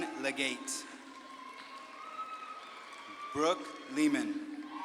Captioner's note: audience claps and cheers